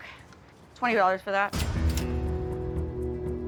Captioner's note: cash register dings